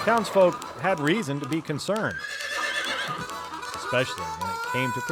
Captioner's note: gun fires; horse whinnies